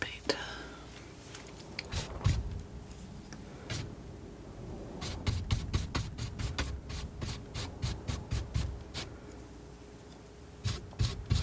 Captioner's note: scratching